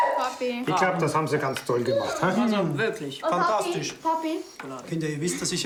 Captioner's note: speaking in foreign language